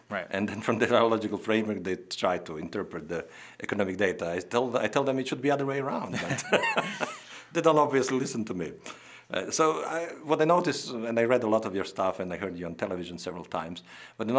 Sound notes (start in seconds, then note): 6.2 laughing